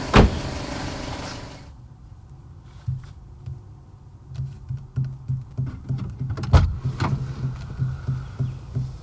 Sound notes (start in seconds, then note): 4.4 tapping